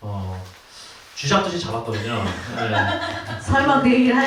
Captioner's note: everyone laughs